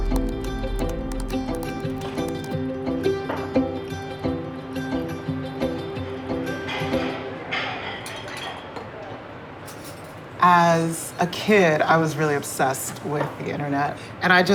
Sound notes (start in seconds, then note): 0.0 keyboard keys clicking; 7.5 dishes clattering; 7.6 diners chatting indistinctly